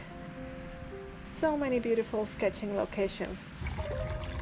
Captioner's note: nature sounds; nature sounds